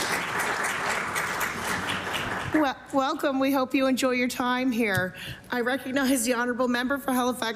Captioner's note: applause